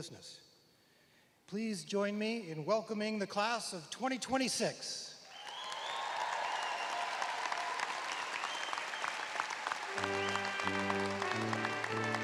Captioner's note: cheers and applause